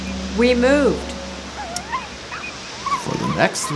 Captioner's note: gong